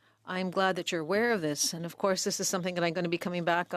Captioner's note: speaking French